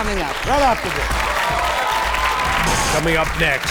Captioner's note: applause